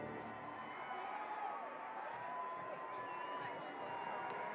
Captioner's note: cheers and applause